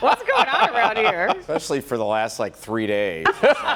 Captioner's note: laughter